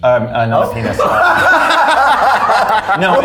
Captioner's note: all laughing